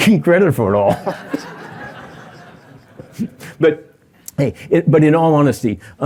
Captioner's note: laughter